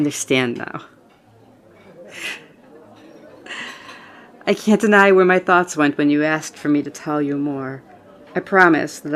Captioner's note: laugh